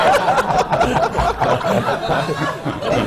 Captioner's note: laughter